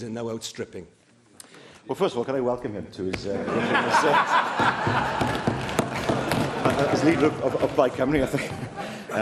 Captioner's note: laughter